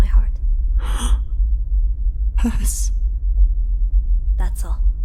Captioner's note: gasp